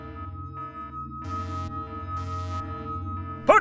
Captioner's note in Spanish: se escuchan alarmas